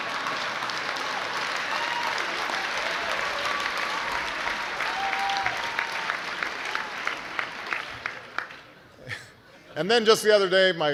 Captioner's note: laughter, applause